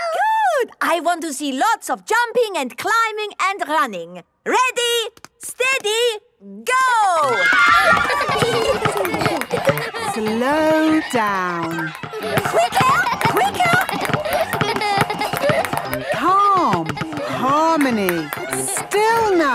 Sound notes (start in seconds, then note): 6.6 kids screaming; 6.6 laughter